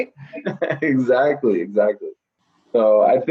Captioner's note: laughs